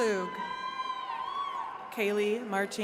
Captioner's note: attendees cheering